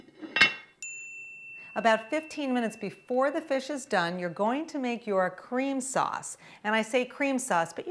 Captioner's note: ding!